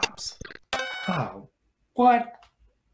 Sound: beeping

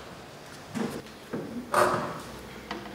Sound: creaking sound

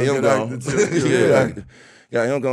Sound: laughing

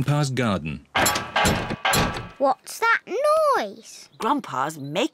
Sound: clattering and clanging

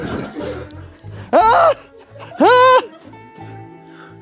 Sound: stamping her feet

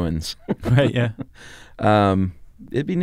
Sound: laughs

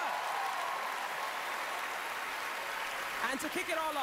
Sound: cheering, applause

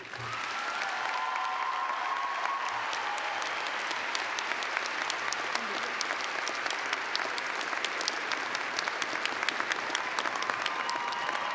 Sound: cheers and clapping

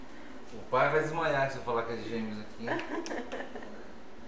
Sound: laughter

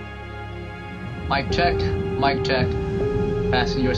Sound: on the radio

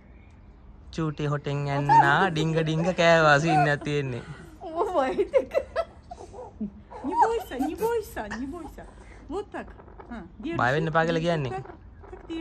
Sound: friendly chatter continues

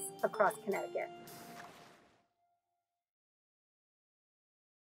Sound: water swishes

